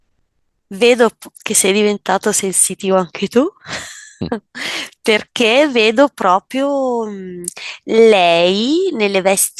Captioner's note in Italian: risate